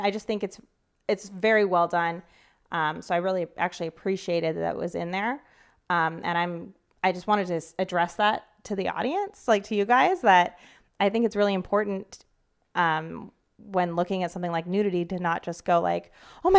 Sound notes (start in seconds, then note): none